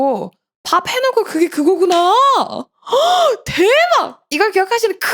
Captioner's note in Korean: 헉 소리